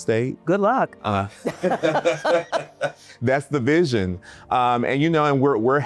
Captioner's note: laughing